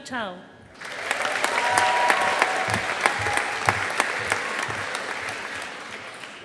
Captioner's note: audience applauding